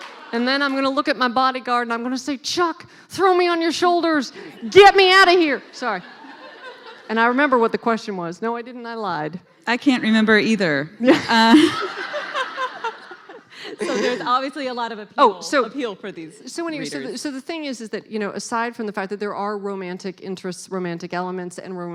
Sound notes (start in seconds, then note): 11.1 laughing